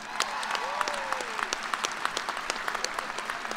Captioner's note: applause